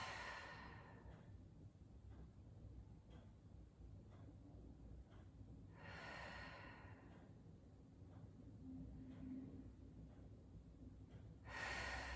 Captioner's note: breathing